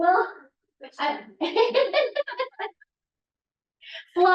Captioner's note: laughter